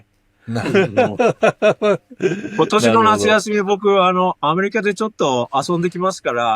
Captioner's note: laughs